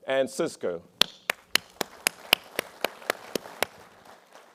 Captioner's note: applause